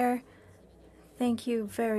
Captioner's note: speaking French